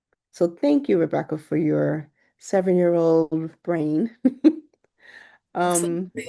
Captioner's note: giggles